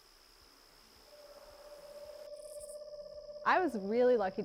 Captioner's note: eastern screech owl trill